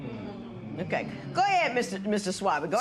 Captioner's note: spectators murmur